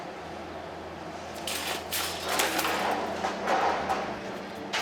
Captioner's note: metal sounds